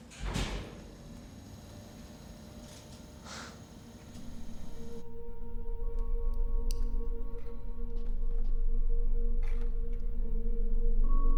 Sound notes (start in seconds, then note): 0.1 elevator thuds; 2.2 elevator whirring; 5.5 gentle ominous music